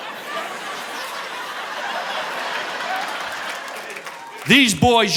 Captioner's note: audience laughing